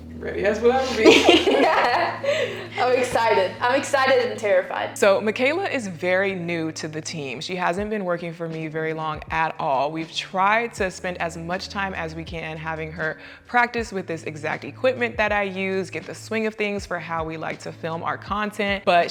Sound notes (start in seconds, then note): 0.9 all laughing